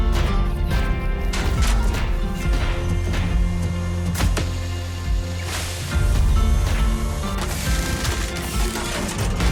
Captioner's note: thunderous footsteps